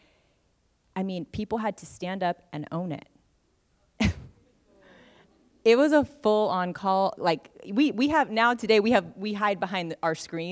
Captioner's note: laughs